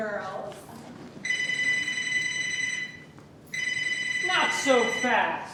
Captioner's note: phone rings